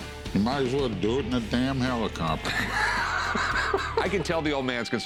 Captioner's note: laughs